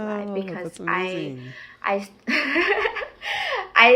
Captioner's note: person laughing